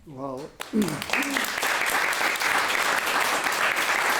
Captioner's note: audience applauding